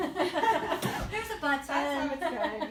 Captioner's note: laughs